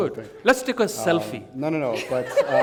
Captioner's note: laughter